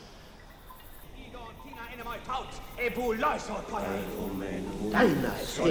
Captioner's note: people chanting in Greek